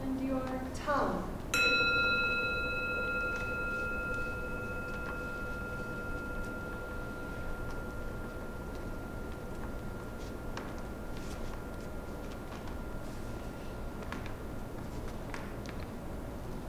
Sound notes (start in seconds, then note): 1.5 gong